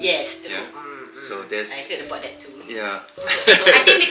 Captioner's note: laugh